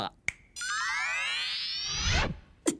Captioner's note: snap!; mystical shimmering